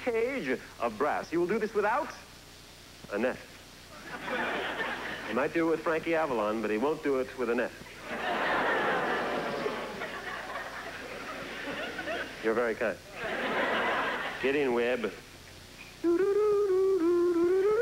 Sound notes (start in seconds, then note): 8.1 audience boos